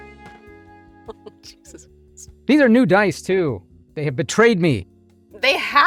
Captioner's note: chuckles